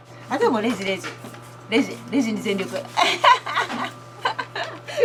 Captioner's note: laughs